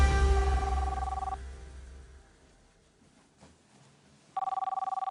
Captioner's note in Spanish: Suena el teléfono